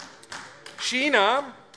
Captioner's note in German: Beifall AfD